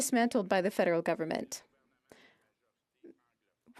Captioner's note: speaking French